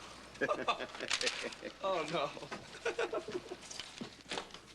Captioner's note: laughing; laughs